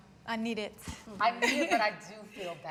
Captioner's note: laughing warmly